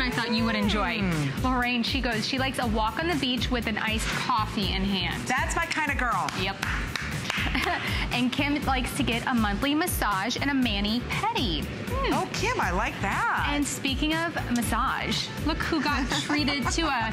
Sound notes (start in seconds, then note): 6.6 applause